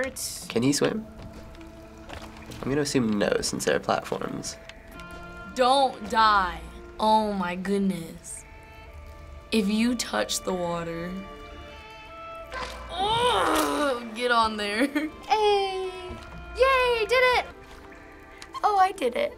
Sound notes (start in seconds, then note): 12.9 grunts in frustration